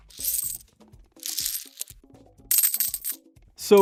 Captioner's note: coins jingle